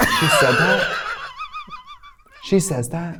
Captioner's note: Katya laughs